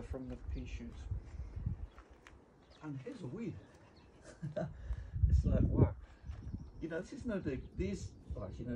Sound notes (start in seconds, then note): 4.0 chuckling